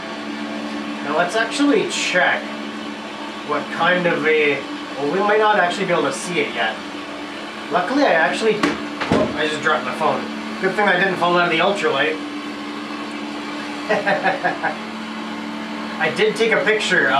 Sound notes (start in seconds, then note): 9.0 bang, tumble; 13.8 laughter